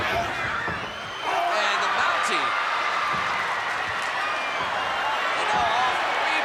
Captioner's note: blows thudding